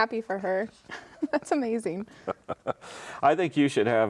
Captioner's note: laughs